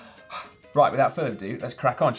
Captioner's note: exhales sharply